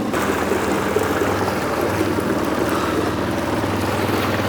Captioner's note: water splashing